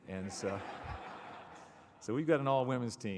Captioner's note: laughter